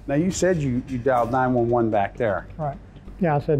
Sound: whooshing

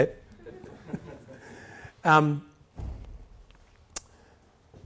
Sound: audience laughing softly

